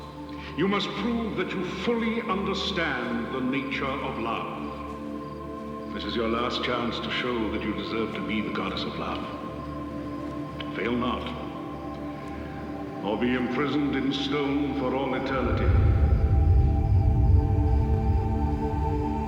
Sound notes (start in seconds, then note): 15.2 rumbling